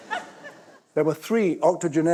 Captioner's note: laughter